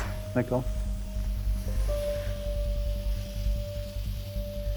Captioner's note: instrument clanks